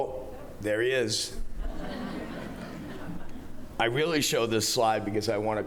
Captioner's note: laughter